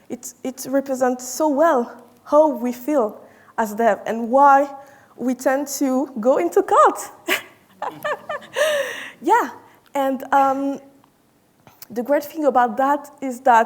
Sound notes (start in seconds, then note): 7.3 chuckles